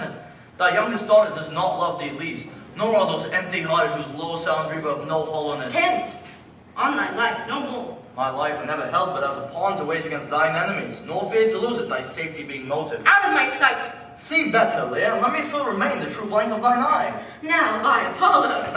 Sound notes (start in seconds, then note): none